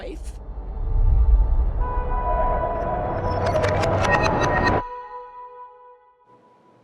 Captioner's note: car horn / car crashing